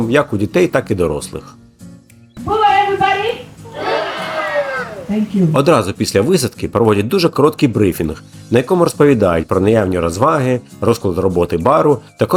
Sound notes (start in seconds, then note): 2.4 crowd